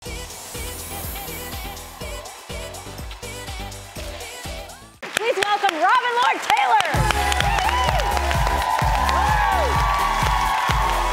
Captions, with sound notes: (upbeat music) Please welcome, Robin Lord Taylor! (crowd cheering)